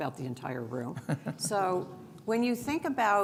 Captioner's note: chuckles